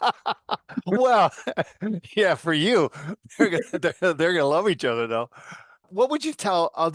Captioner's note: laugh